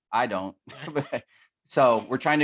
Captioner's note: laughter